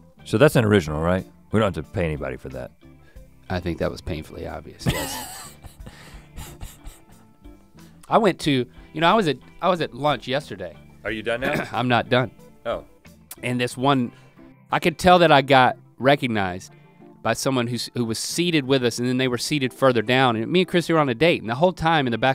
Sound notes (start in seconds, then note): 4.8 Rhett chuckles